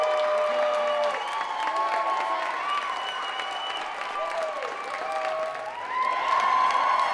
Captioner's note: audience cheering